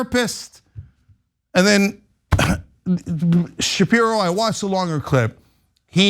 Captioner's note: cough